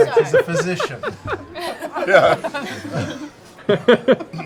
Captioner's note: laughter